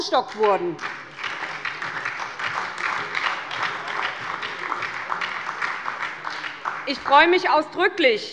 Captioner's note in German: Beifall bei der SPD